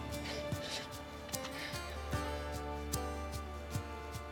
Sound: sniffling

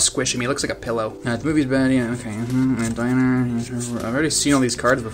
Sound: impatiently mumbling the names of each card

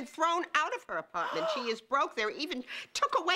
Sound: Fran gasps

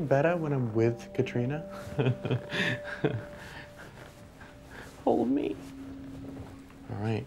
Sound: laughs

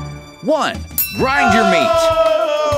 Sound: bell rings

